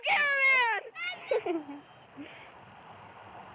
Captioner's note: giggles